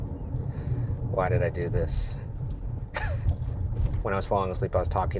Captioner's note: laughs